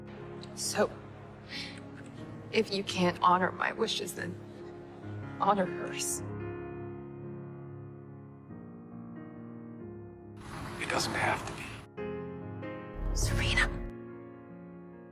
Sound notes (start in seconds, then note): 1.2 voiceover; 13.2 whispering